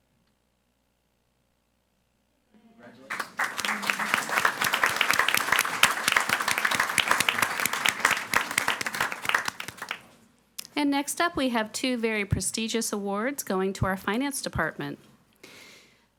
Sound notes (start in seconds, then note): 3.1 audience applauding